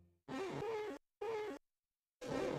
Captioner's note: glass squeaking